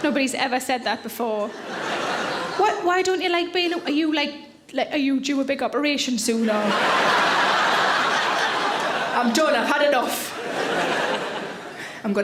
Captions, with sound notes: Nobody's ever said that before. (audience laughs) Why don't you like being a... Are you, like, are you, do you have a big operation soon, or? (audience laughs) I'm done, I've had enough.